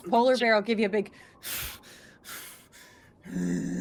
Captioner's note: exhales sharply; grunts